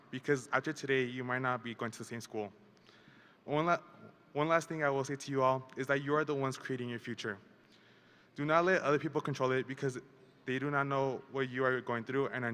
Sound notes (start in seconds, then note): none